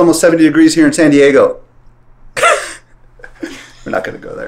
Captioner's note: laughs